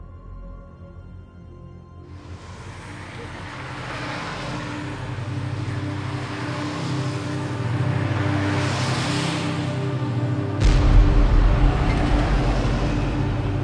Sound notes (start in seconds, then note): 2.9 traffic rumbling quietly; 6.6 melodic haunting music